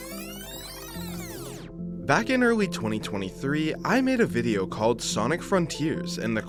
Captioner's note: rewind sfx